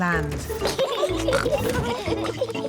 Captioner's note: both giggling